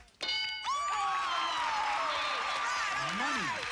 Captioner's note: cheers